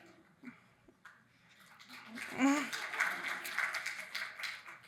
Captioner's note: audience applauding